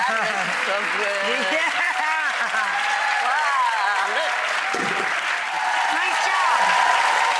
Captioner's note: audience cheering